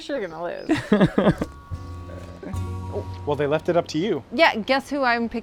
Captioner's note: chuckling